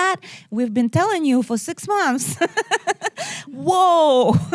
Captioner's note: laughs